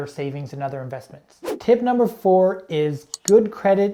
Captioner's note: air whooshing